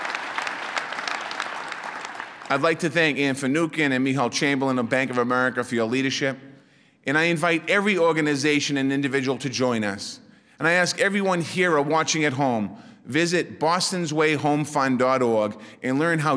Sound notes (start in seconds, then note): 0.0 applause; 3.2 applause